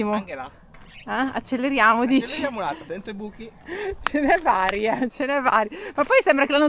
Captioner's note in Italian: risate